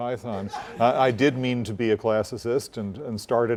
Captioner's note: laugh